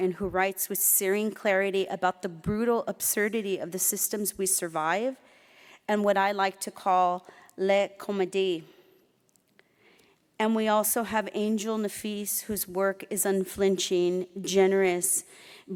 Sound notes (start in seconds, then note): 7.8 speaking foreign language